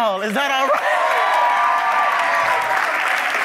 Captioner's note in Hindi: वाहवाही; जय-जयकार करना